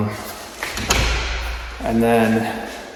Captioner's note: door thuds